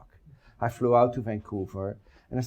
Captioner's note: none